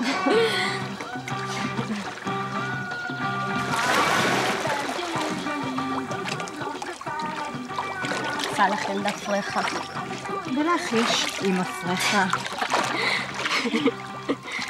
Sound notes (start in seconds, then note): 0.0 chuckles; 0.0 laughs; 3.3 water splashing; 12.8 giggling